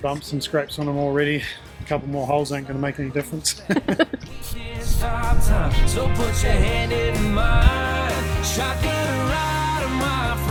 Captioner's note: laughing